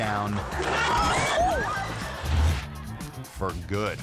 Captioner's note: actors thudding; audience gasping